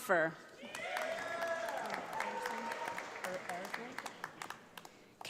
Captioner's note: audience applauds